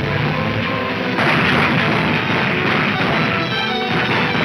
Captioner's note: gunshots banging